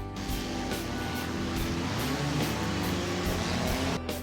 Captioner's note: laid-back music; engines revving